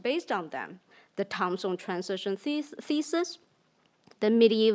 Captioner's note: speaks in foreign language